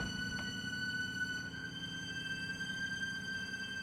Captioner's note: footsteps pause